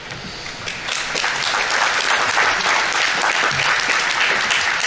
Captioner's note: audience applauding